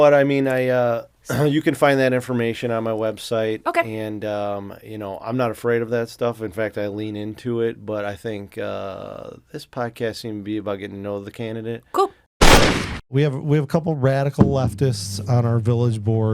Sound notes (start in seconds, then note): 12.4 sound of gunshot